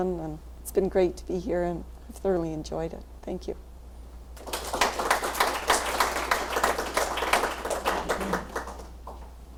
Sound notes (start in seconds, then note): 4.4 applause